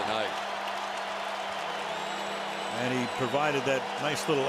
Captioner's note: cheering